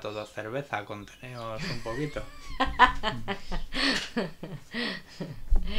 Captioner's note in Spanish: Risas